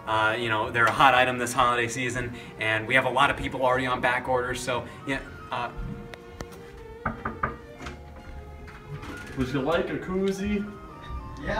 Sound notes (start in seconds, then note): 6.9 man knocks